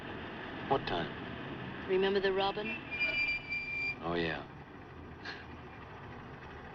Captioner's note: chuckles